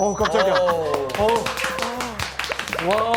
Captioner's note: applause